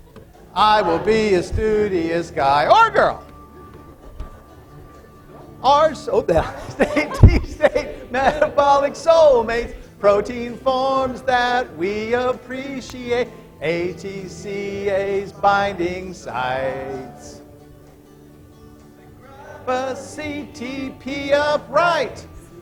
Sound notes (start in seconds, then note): 3.3 laughter